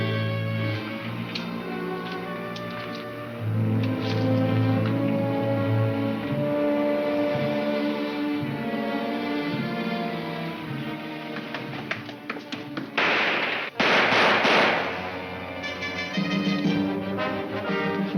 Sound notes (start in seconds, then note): 12.9 gunshots crack; 15.2 dramatic music